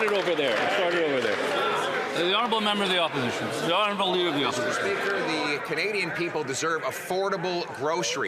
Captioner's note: some Applause